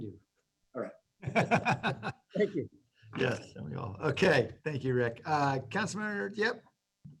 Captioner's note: laughter